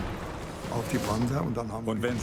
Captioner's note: speaking in foreign language